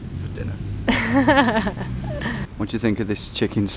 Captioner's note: laughs